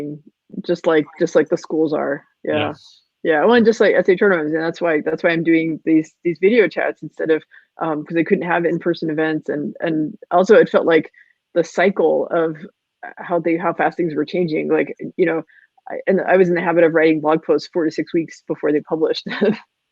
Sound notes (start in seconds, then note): 4.3 voice muffled